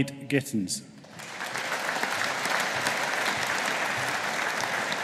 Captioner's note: audience applauding